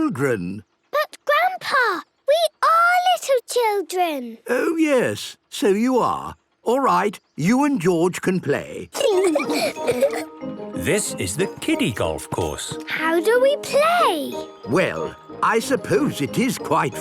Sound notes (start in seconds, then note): 8.9 laughing